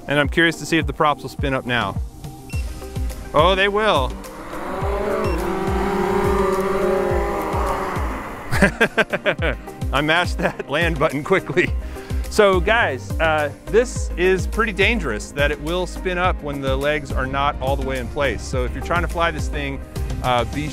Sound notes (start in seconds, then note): 4.4 drone whirs; 8.6 laughs